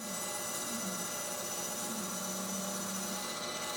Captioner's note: saw buzzing